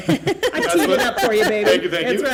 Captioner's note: laughter